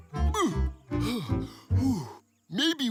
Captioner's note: panting